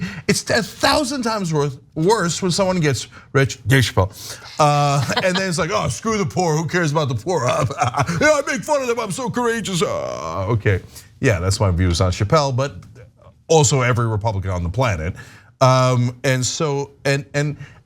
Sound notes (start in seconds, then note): 7.4 laugh